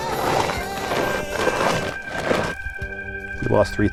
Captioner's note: shoe scraping dirt